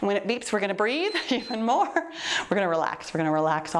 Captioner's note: timer beeps